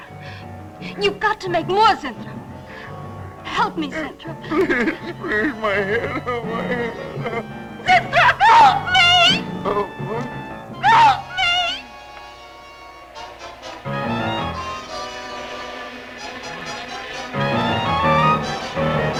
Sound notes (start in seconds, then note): 7.8 screams; 13.0 dramatic music; 18.9 Zinthrop screaming